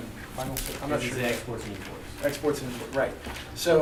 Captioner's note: voiceover